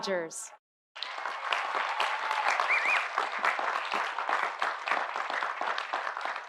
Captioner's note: audience applauding; audience cheering